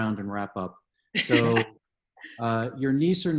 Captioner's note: chuckles